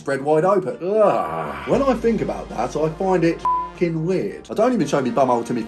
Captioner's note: beep